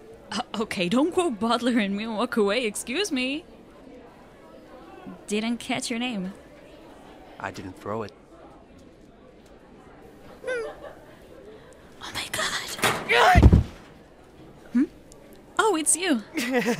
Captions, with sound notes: Uh, okay? don't quote Baudelaire at me and walk away, excuse me? didn't catch your name I didn't throw it OMG (*locker door sound*) AHG! Oh, It's you!